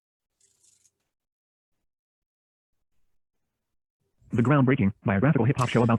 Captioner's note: electronic rattling